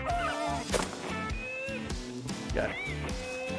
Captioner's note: gun fires